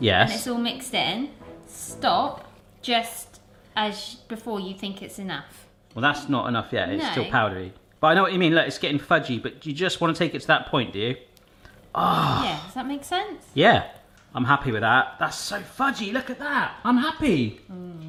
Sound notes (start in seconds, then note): 11.9 groans